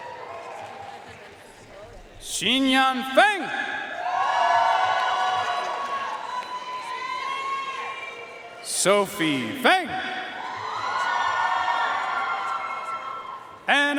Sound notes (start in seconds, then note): 0.0 audience cheering and applauding; 4.0 audience cheering and applauding; 10.3 audience cheering and applauding